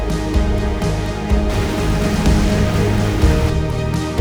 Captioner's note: waves crashing